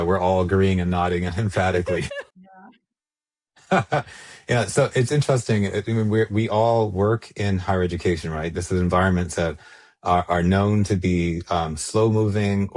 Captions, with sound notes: we're all agreeing and nodding emphatically. - Yeah. - (laughs) So it's interesting. I mean, we all work in higher education, right? This is environments that are known to be slow moving